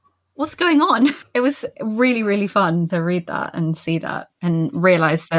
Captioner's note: laughs